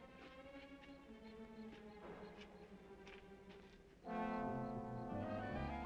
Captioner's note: insects chirping; dramatic music